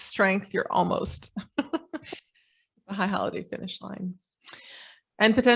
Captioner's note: chuckling